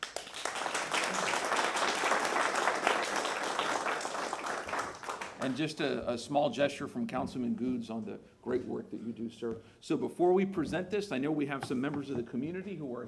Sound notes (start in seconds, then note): 2.9 applause